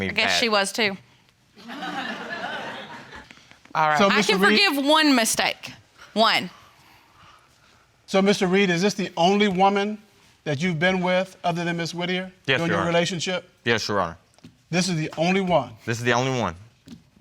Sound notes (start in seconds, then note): 1.6 audience laughing